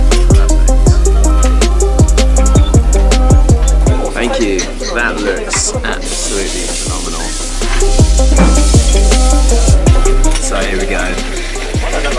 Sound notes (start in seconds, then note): 7.6 meat sizzling